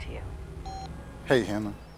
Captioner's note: machine beeping